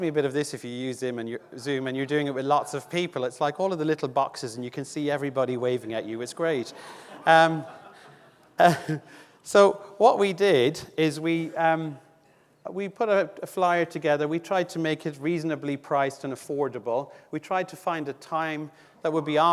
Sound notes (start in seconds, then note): 6.6 audience laughing